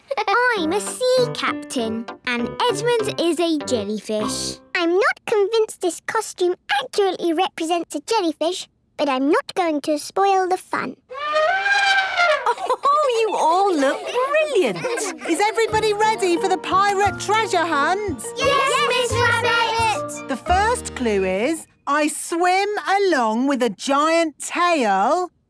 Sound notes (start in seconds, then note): 11.1 trumpeting; 12.0 Mummy Pig laughing